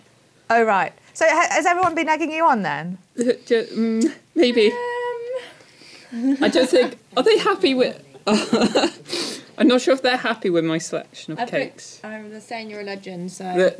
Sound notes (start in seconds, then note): 8.1 laughs